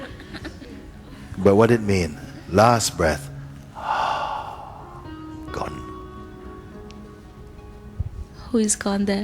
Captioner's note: exhales